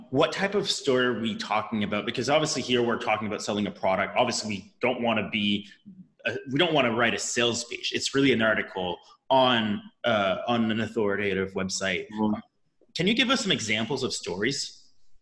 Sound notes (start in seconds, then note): 12.1 hums